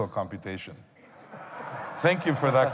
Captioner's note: laughter